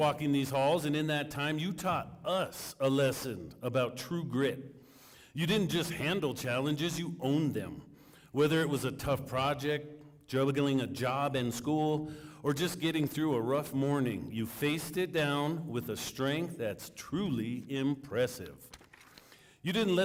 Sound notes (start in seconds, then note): none